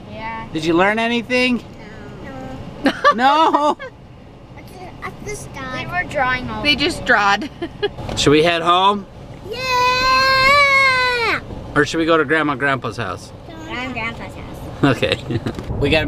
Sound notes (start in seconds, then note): 2.8 laughs; 8.1 laughs; 14.8 chuckles